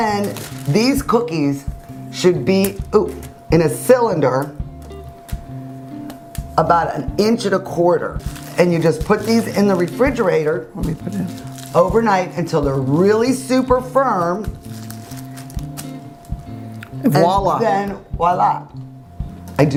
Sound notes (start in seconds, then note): 14.9 foreign language; 18.2 speaking foreign language